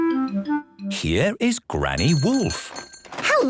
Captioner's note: bell jingling